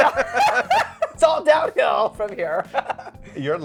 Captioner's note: giggling